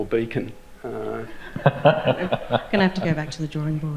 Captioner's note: laughter erupts